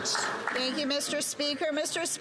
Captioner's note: some Applause